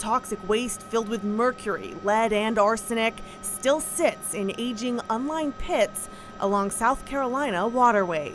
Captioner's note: helicopter whirring